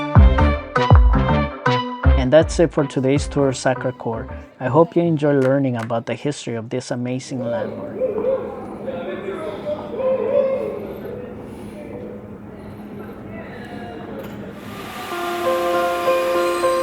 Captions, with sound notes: And that's it for today's tour of Sacré-Cœur. I hope you enjoyed learning about the history of this amazing landmark. [Out of frame hollering and hooting] [Upbeat music starts playing]